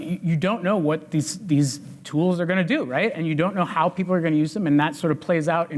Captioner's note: none